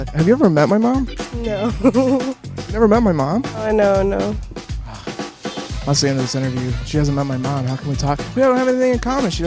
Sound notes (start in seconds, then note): 1.1 laughs